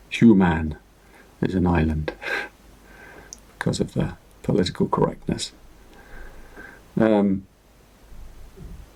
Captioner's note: chuckles